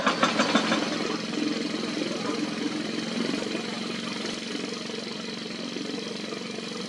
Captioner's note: construction Rumble